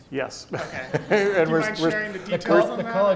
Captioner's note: both men laugh